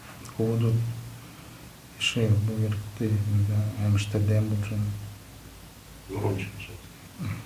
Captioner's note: speaks Buryat